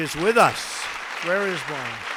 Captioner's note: applause